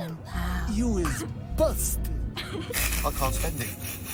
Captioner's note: snickering